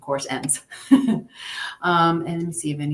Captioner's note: chuckles